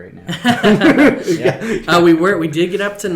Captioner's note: laughing